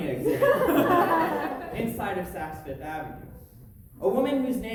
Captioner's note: audience laughter